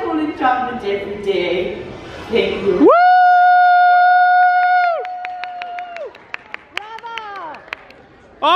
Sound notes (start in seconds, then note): 2.8 crowd cheering